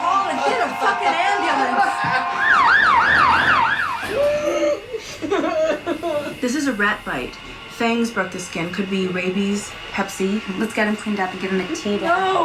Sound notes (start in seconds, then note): 2.6 siren wailing; 4.5 Billy groaning